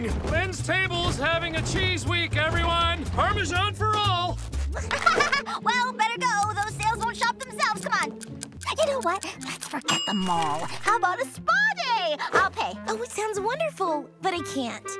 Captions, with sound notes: Lynn's Table's having a Cheese Week, everyone! Parmesan for all! [laughing] Well, better go. Those sales won't shop themselves! Come on! You know what, let's forget the mall. How about a spa day? I'll pay. Oh, that sounds wonderful, but I can't.